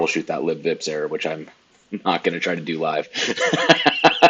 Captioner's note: laughs